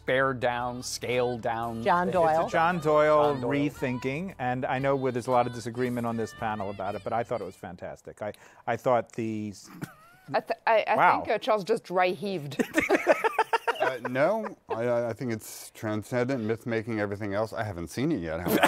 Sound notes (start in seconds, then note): 9.5 laughs; 12.8 laughing